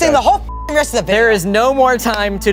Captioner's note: beep